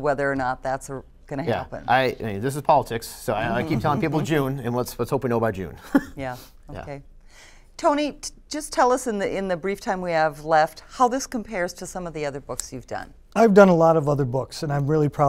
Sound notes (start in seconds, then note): 5.8 laughter